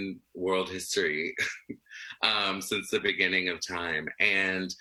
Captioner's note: laughs